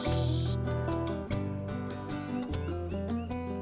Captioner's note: hissing sound